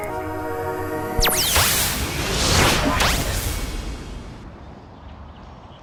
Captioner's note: electronic whooshing